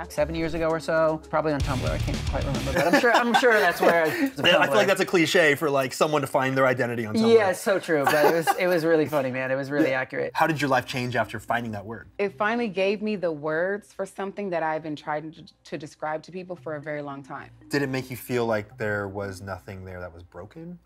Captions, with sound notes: -Seven years ago or so, probably on Tumblr. I can’t quite remember. [laughter] I’m sure that’s where I got it. [laughs] I feel that’s a cliche for someone to find their identity on Tumblr. -Yes, it’s so true. [laughs] It was really funny man. It was really accurate. Anthony How did your life change after finding that word? -It finally gave me the words for something that I’ve been trying to describe to people for a very long time. -Did it make you feel like there was nothing there that was broken?